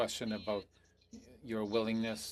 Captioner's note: speaking French